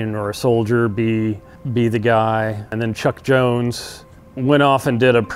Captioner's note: none